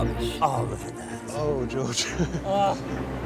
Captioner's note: laughs